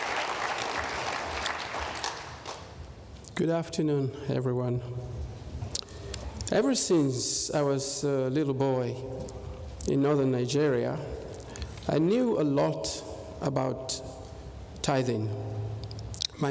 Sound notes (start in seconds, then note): 0.0 applause